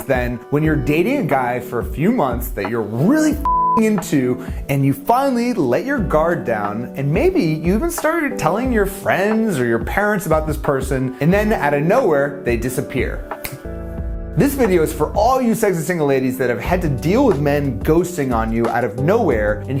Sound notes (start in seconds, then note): 13.3 fingers snap